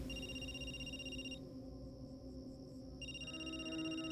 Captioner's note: phone rings